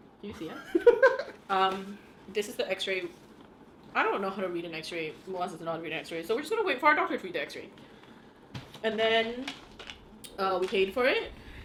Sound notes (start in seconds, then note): 1.2 laughing